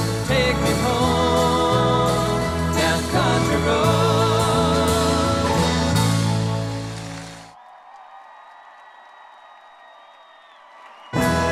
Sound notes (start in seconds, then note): 7.7 crowd cheering